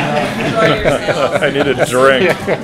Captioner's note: laughter